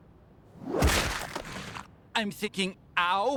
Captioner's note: splat